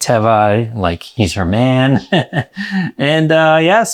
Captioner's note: laughs